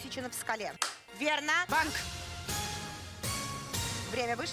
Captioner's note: Hikakin's handclap